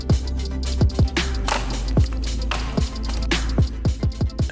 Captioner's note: caller raking